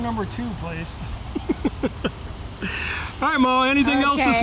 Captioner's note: chuckling